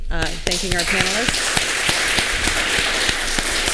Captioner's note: applause